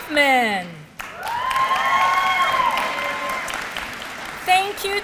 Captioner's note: applause